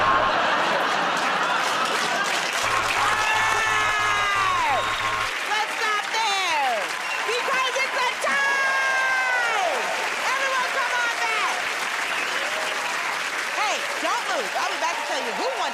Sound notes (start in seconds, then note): 0.1 buzzer buzzes; 1.7 laughter; 2.6 buzzer buzzes repeatedly